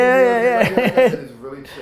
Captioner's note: laughing